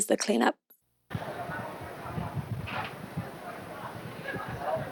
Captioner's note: psychic Fair Ambience